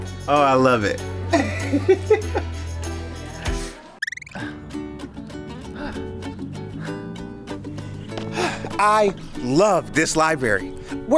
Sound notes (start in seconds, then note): 1.3 laughing; 2.9 lively music; 2.9 panting